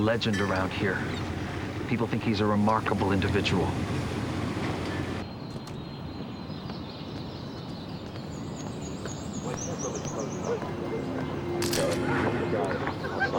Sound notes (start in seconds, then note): 4.3 door closes; 11.6 camera shutter clicks